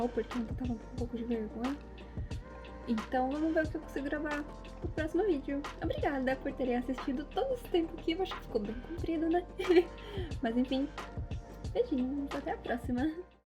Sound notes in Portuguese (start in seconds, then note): 9.6 risos